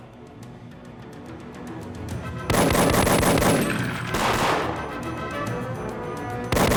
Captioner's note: dramatic music; gunshots blasting